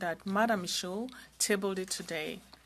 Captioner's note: speaking french